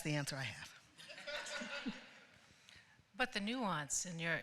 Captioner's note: laughter